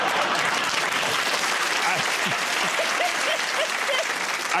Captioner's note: laughter; applause